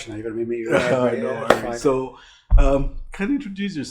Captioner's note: laughs